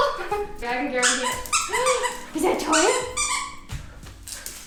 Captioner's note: laughs; toy squeaking